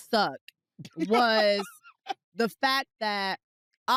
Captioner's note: laughs